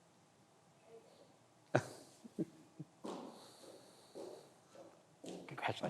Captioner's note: laughs